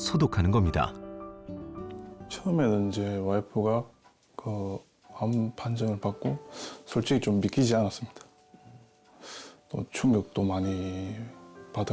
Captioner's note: voiceover